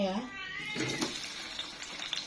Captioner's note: cat sound